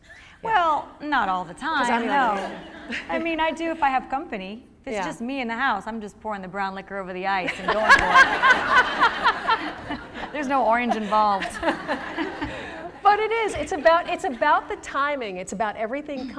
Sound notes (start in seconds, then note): 7.4 laughter